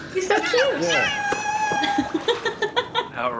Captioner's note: dolphin wails; laughter